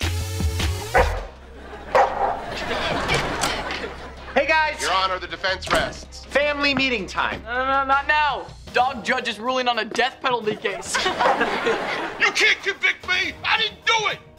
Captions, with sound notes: [barking] [laughing] - Hey, guys! - Your Honor, the defense rests! - Family meeting time! - No, no, no, not now! Dog Judge is ruling on a death penalty case! [laughing] You can't convict me, I didn't do it!